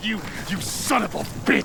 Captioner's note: fire crackles